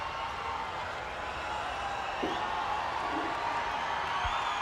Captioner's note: crowd clamoring